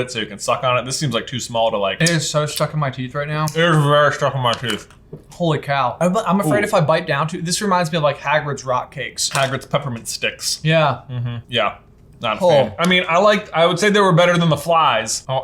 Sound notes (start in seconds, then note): none